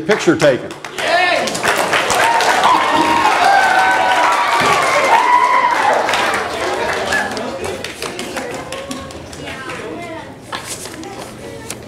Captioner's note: audience applause